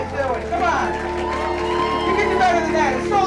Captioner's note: audience applauding; audience cheering